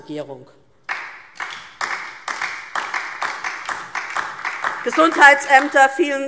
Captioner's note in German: Beifall DIE LINKE